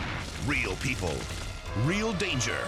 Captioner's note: fire exploding; elephant trumpeting